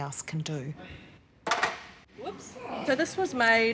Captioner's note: barbell clangs